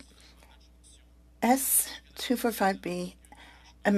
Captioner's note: speaking French